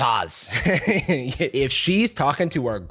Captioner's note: laughs